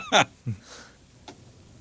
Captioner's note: laughing